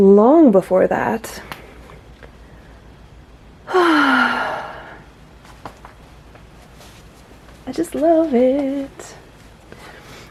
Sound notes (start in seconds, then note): 3.6 tired, yet contented sigh; 7.6 sing-song voice